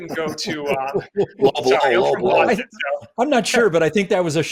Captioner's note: laughter